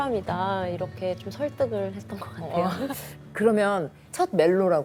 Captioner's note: laughs